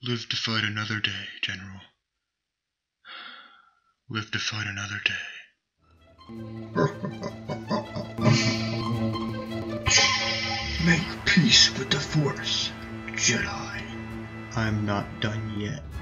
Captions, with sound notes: no live to fight another day general. Live to fight another day. (Laughing) Make peace with the force Jedi . I'm not done yet